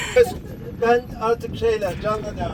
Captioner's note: laughter